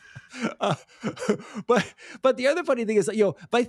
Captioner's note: both laughing